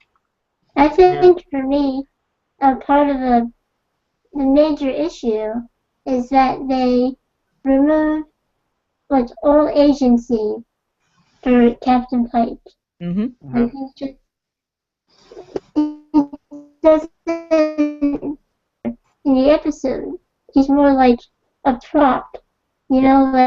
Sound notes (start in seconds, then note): 16.8 video feedback